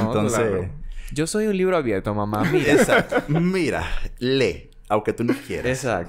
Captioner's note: laughs